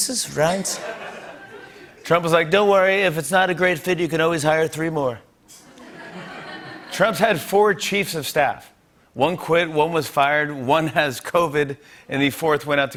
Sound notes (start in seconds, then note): 0.6 laughter; 2.4 As Trump; 5.6 laughter